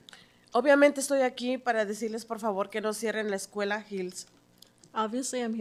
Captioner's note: speaking in Spanish